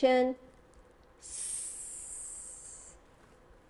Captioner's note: hisses